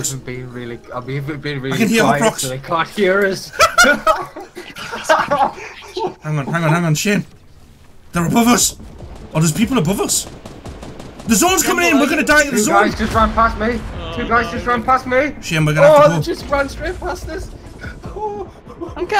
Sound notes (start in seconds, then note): 3.4 laughter